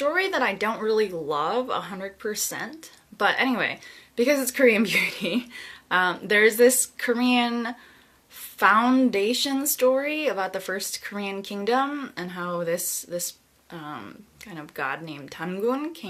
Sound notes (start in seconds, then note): 4.9 chuckles